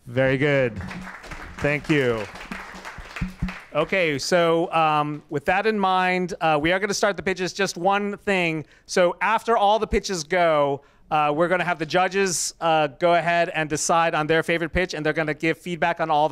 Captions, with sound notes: - Very good. (applause) Thank you. (applause) Okay so, with that in mind. We are gonna start the pitches. Just one thing. So after all the pitches go, we're gonna have the judges go ahead and decide on their favorite pitch. And they're gonna give feedback on all